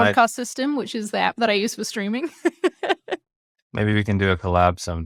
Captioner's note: laughs